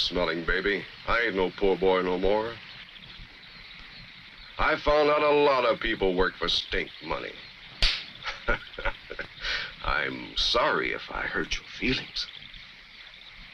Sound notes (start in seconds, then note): 7.8 slaps; 8.1 chuckles